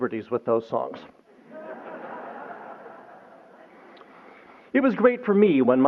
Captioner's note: laughter